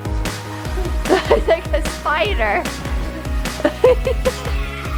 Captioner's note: laughs